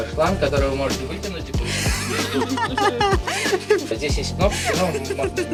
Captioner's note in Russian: Смех